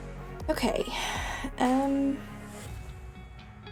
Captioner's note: sigh